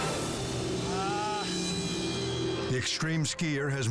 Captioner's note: groaning